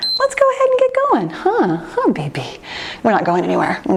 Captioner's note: timer beeps